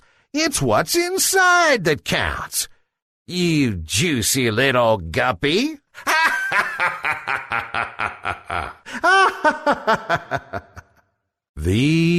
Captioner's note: evil laughter